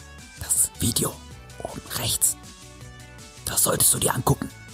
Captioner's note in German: Geflüster; Geflüster